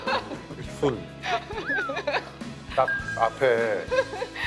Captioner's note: haha